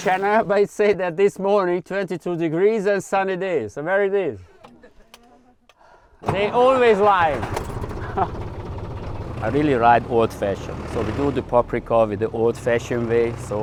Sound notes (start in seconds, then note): 4.4 workers laughing; 7.8 engine revs